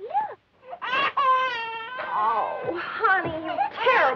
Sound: baby crying

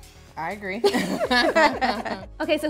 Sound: all laughing

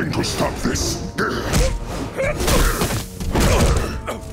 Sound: grunting

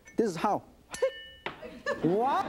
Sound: metal clangs

